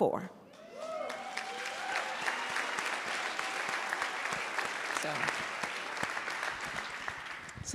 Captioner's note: applause